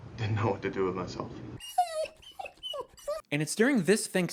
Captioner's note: dog whining